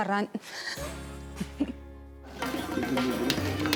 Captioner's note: laughs